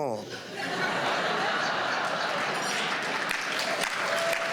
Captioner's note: applause